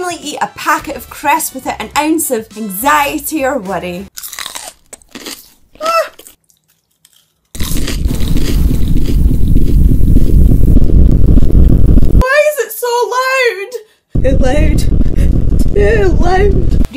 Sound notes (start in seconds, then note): 4.1 Crunch